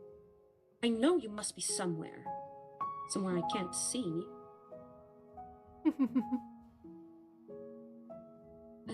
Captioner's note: ROSE chuckles